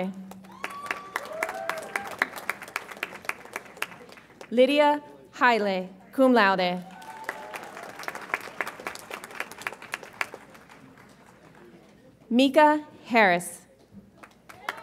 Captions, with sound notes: (audience applauds and cheers) Lydia Haileh, cum laude. (audience applauds) Micah Harris.